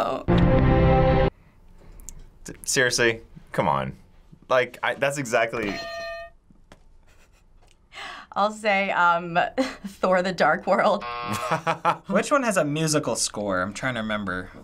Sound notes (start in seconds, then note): 0.3 orchestral music; 5.6 hitting bell; 6.9 chuckles; 11.0 buzzer; 11.2 laughs